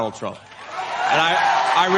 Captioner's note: audience Cheers